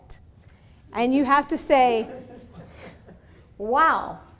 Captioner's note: audience laughing